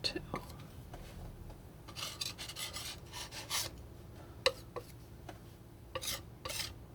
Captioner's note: scratching